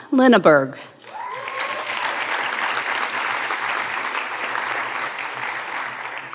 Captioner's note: audience cheering and applauding